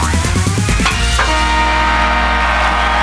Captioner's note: horn honking; cheering